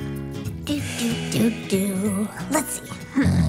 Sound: snoring; fly hums

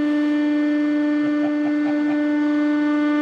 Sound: evil laugh

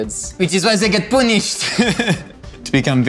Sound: laughing

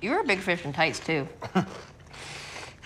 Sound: Demar chuckles

